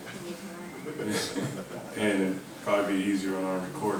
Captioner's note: group laughing